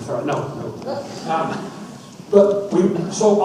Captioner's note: audience laughs